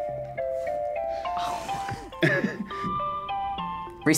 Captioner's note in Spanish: gimiendo; riendo